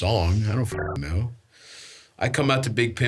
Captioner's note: beeps